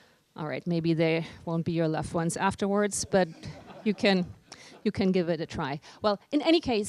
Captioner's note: laughter